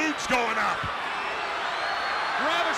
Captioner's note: crowd cheering